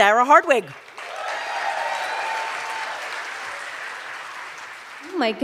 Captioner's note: cheers and applause